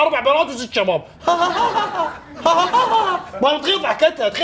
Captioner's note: imitating audience's repetitive laugh